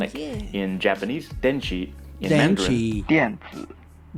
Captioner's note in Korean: 만다린어